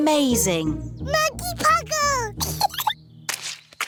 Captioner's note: giggles